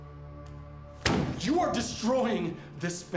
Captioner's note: hand thudding